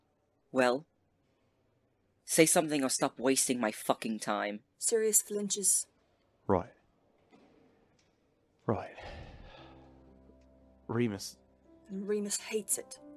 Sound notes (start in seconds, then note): 8.6 music playing in background; 8.9 Sirius exhales